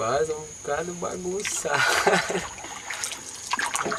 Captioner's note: laughter